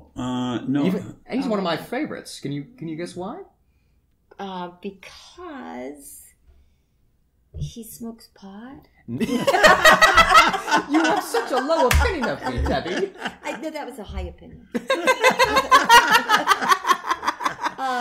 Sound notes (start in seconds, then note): 9.2 laughter; 14.8 more laughter